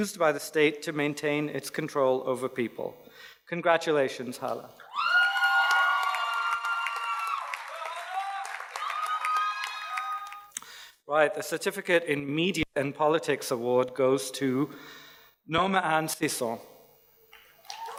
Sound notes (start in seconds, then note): 4.9 audience cheers and applauds